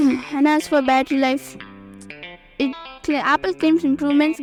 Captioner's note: voiceover